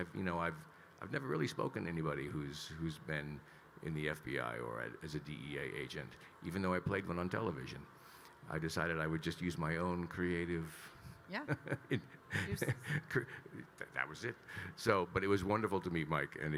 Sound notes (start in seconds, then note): 12.2 Kyle laughing